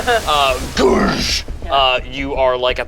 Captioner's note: boat crashes